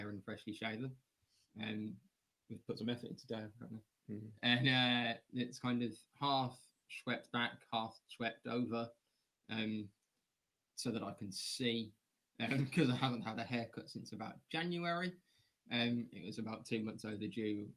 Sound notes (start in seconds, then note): 10.7 laughter